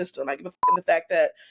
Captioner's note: beep